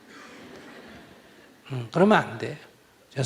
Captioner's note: audience Laughter